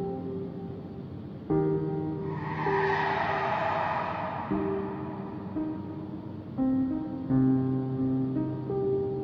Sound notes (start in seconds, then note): 2.0 tires screeching with long echo